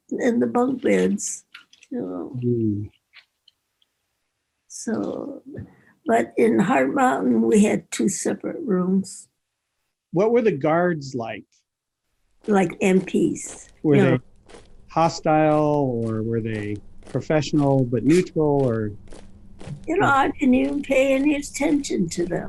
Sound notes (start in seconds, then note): 12.7 feet thumping